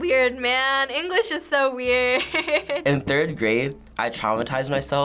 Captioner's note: chuckles